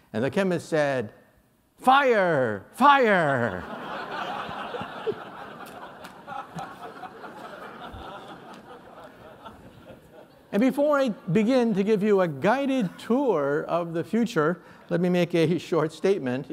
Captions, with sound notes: And the chemist said, fire, fire! [LAUGHTER] And before I begin to give you a guided tour of the future, let me make a short statement.